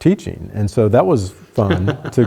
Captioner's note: laughter